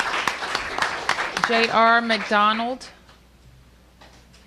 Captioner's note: applause